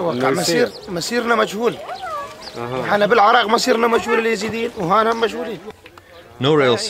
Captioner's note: speaks in Arabic